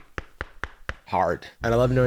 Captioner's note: knocking on the sole